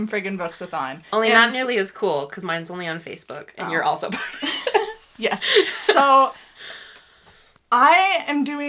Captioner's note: laughs